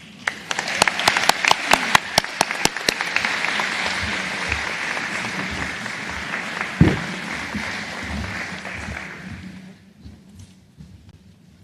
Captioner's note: applause